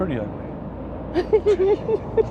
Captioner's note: laughter